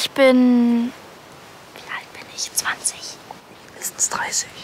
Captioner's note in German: flüsternd